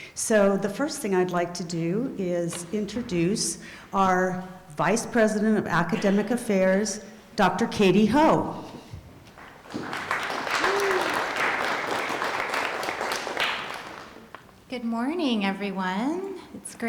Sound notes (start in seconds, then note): 9.4 applause